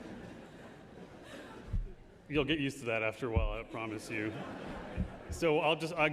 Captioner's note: laughter